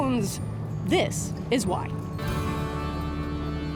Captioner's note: normal voice